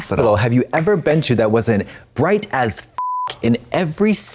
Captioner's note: beep